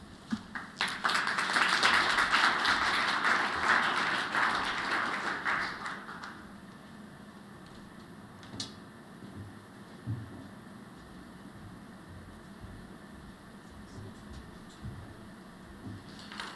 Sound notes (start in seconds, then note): 4.5 applause